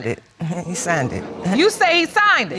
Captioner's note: audience exclaims